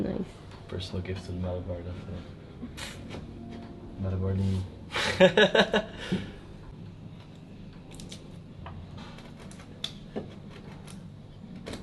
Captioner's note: laughter